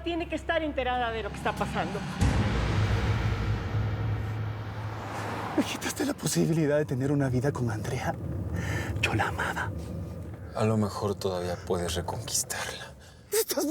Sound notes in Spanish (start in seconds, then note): 5.4 Sonido del motor acelerado